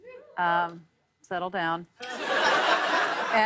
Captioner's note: laughter